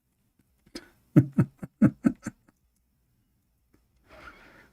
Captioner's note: Ketawa